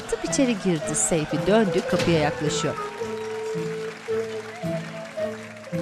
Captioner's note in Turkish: Fonda alkış ve çığlık sesleri